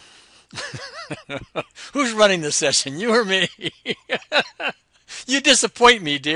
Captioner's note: laughs